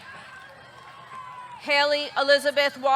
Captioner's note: audience cheering; audience clapping